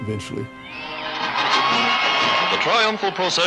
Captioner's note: cheering